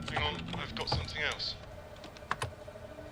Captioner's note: man over phone